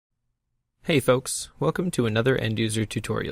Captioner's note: voiceover